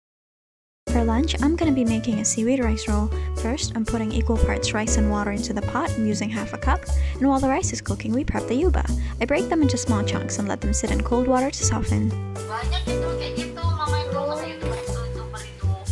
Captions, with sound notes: For lunch I'm going to be making a seaweed rice roll. First, I'm putting equal parts rice and water into the pot, I'm using half a cup And while the rice is cooking we prep the yuba. I break them into small chunks and let them sit in cold water to soften *me and mama speaking in Bahasa*